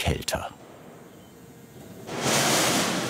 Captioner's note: quiet whirring, clattering